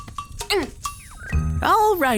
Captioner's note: Jade grunts